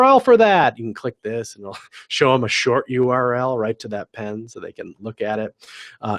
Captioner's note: laugh